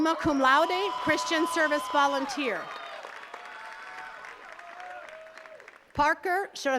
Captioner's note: attendees cheers and claps